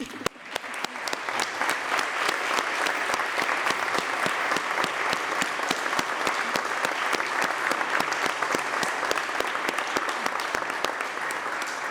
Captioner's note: applause